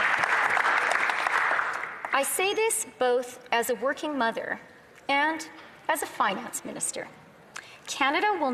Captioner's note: applause